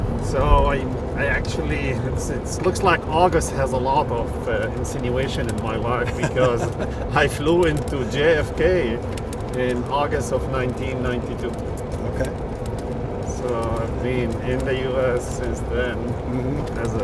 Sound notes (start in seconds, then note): 5.6 laughing